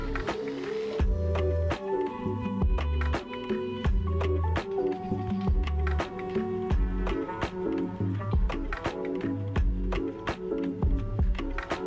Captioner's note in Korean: 박수 갈채